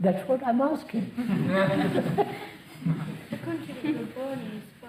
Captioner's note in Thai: หัวเราะ